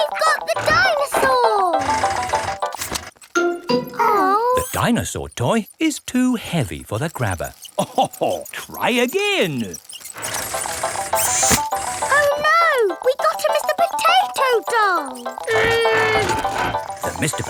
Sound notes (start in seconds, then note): 7.7 chuckles